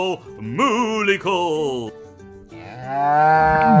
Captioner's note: cow moo